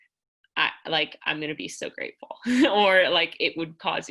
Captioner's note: laughter